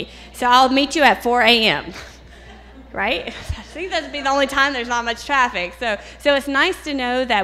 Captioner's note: laughter